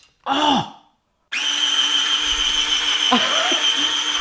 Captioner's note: machine sound; laughter